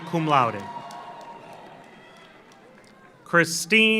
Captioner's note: audience cheers; audience applauds